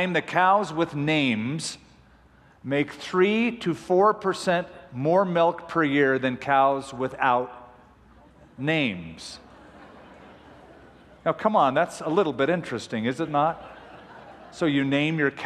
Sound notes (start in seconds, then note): 9.4 laughter